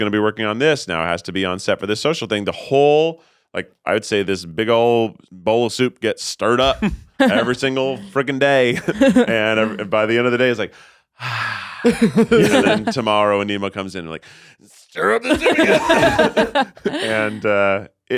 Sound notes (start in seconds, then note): 8.7 chuckles; 11.2 sighs; 11.8 all laughing; 15.2 all laughing